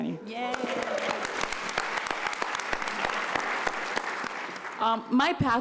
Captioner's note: applause